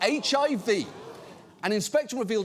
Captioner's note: audience groans